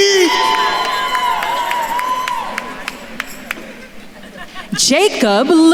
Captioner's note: attendees cheering and applauding